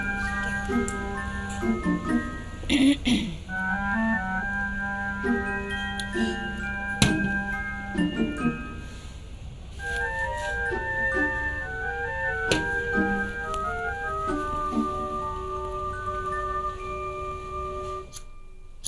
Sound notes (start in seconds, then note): 2.7 clears throat